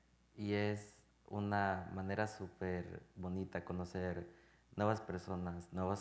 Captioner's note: speaking in Spanish